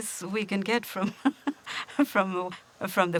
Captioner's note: chuckles